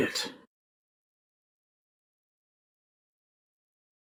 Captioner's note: long intentional silence